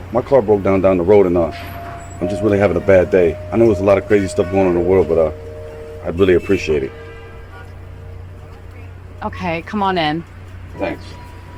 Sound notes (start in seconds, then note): 7.9 horns honking